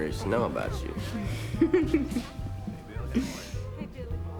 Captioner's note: laughs